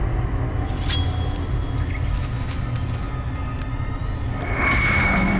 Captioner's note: metal clanging